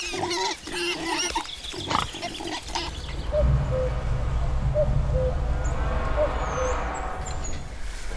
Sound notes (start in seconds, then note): 3.1 birds chirping